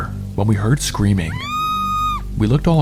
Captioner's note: woman screaming